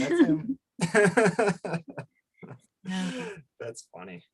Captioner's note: laughs; laughs